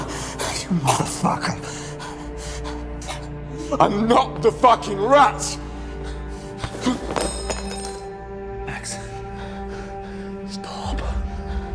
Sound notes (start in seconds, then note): 0.0 grunting; 7.1 knife clatters